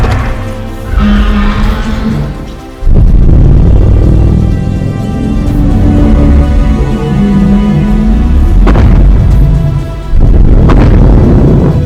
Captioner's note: Godzilla growling and stomping